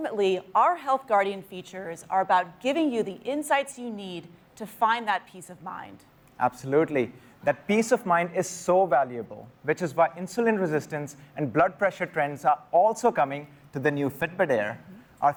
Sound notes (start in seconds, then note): none